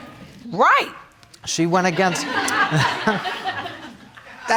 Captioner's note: laughing